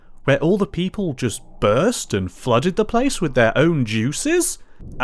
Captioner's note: none